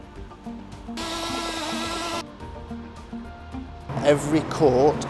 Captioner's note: mixer whirling